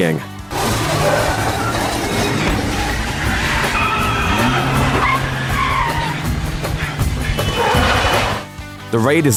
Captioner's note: squealing, dizzying tires